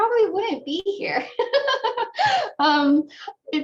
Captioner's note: laughter